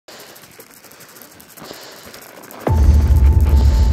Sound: sounds of snow and ice crackling underfoot; intense music

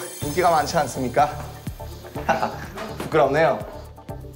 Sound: haha

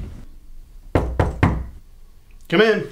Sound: knock

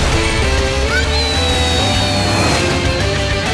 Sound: screaming

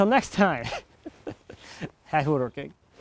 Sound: laughing

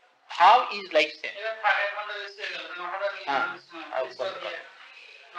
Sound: Hindi

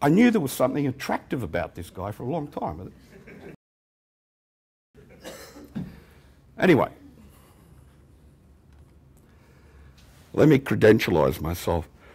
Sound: laughter

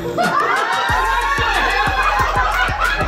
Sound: cheering

